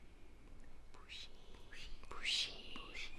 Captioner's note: whispers